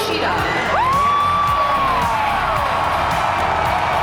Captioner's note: crowd cheers